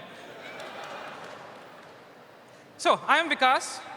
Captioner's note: laughter